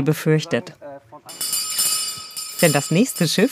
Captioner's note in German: Glockeläuten